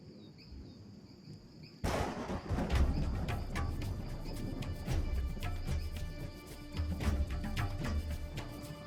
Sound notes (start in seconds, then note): 1.9 thunder claps; 4.1 drum beats continue